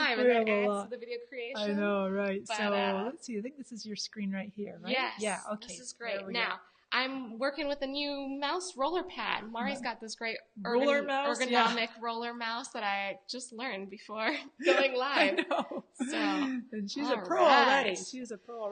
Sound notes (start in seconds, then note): 14.6 laughs